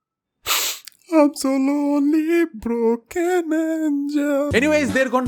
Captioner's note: sobs